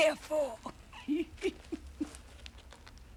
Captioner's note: laughing